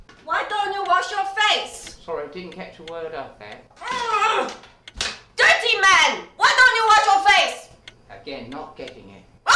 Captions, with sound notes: Why don't you wash your face? Sorry, didn't catch a word up there. (grunting) Dirty man, why don't you wash your face? Again, not getting it.